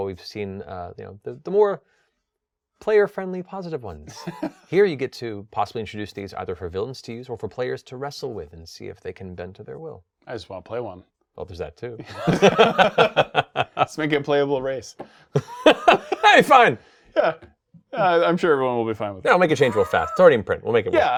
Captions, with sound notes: we've seen the more player friendly positive ones. Here you get to possibly introduce things either for villains to use or for players to wrestle with and see if they can bend to their will. - I just wanna play one. - Well, there's that, too. (both laughing) - Let's make it playable race. - (laughing) Hey, fine! - I'm sure everyone will be fine with that. - Yeah, we'll make a change real fast. It's already in print.